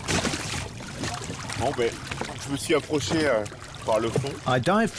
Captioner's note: speaking French